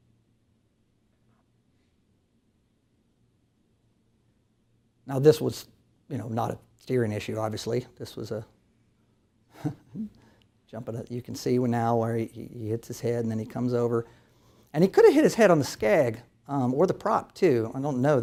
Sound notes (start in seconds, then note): 9.5 chuckles